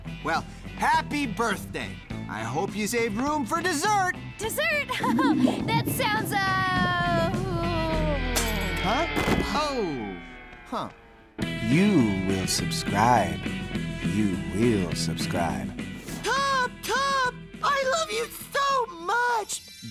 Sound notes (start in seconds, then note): 4.9 stomach rumbles; 9.1 thud